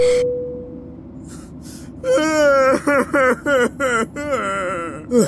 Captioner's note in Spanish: llorando